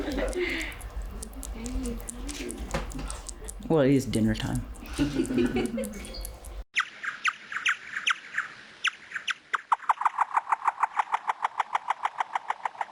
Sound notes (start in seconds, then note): 0.0 students laughing; 4.8 students laughing; 6.9 bats squeaking